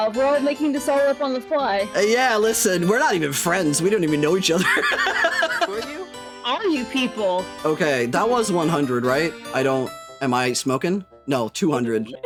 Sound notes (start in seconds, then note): 4.6 laughing